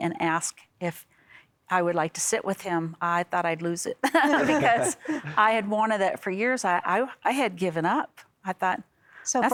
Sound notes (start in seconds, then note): 4.0 laughter